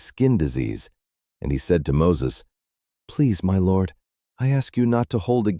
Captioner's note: pleading